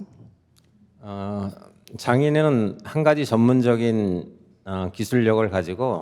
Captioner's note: speaking in Korean